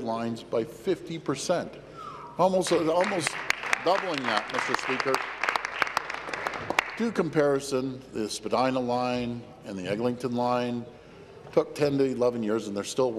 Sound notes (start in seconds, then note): 6.9 applause